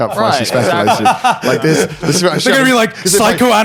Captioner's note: laughing